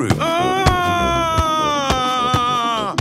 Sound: shouting

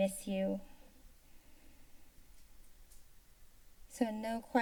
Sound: silence

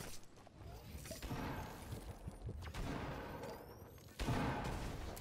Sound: guns shooting

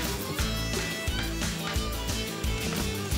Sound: tapping

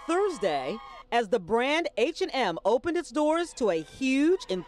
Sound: cheering

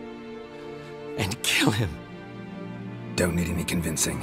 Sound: voice breaking

